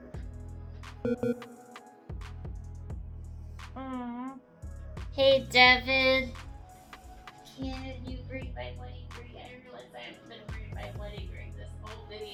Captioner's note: error beep sound